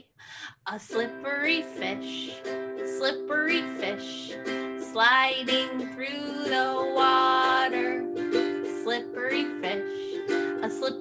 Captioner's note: gasp